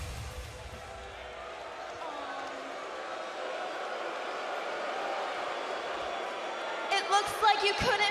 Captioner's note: crowd chatter